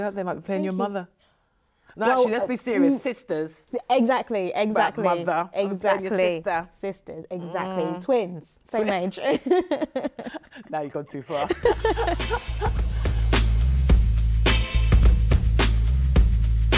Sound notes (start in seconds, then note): 9.2 laughs; 11.3 both chuckles; 12.8 upbeat music